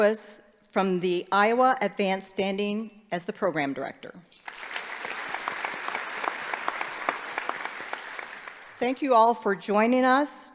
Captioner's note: applause